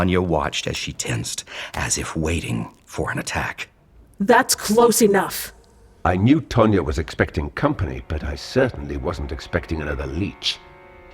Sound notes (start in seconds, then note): 4.3 firm, monstrous voice; 6.2 monstrous voice